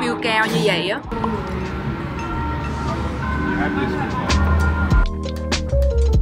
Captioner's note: the ringing bell sounds great